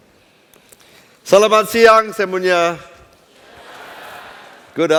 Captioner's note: non-english speech